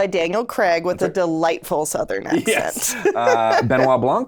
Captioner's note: laughs